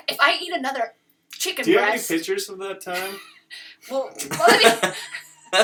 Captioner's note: laughter